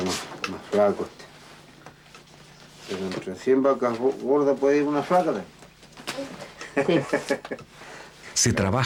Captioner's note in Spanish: risas